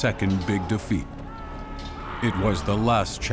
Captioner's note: screams